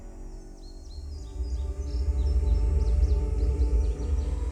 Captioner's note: birds chirping; tense music